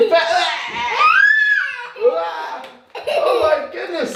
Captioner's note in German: lacht